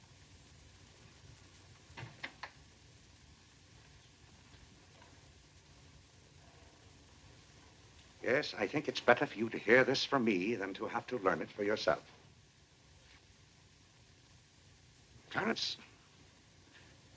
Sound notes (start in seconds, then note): none